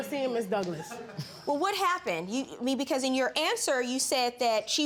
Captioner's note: people laughing